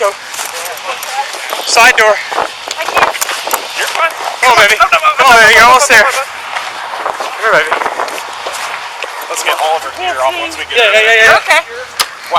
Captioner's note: mingled voices; sirens